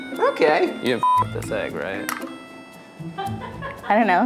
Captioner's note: beeps; laughing